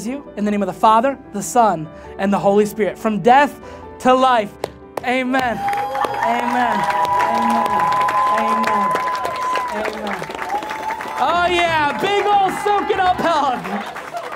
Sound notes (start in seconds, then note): 7.6 congregation cheering